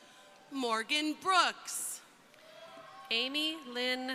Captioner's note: crowd cheering